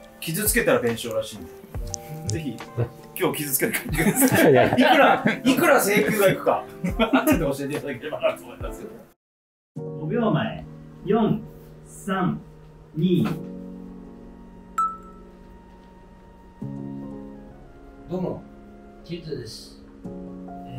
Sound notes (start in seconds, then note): 3.5 laughing